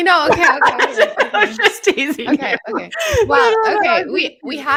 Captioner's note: presenters laughing